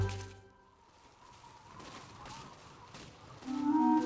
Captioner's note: wind whistling